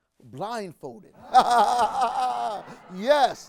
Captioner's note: laughs